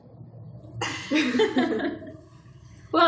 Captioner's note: laughs